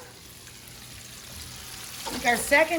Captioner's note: pan sizzling